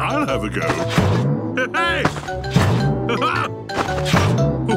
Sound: laughs

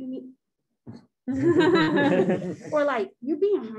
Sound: laughs

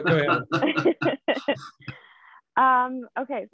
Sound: laughter

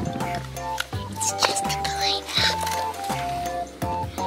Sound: whispering

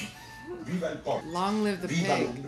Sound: speaking Italian

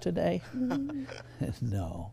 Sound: chuckles

